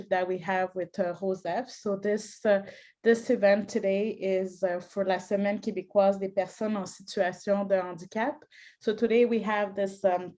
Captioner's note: speaking French